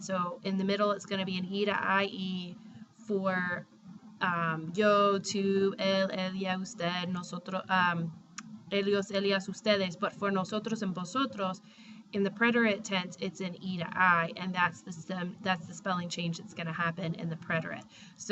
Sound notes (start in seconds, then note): 5.0 speaking spanish; 10.4 spanish